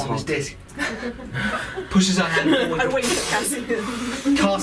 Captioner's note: fwooshing sound